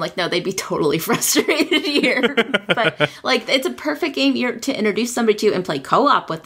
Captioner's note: laughs